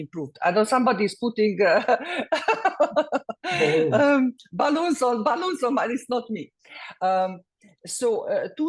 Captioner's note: laugh